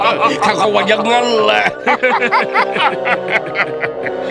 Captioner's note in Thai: หัวเราะ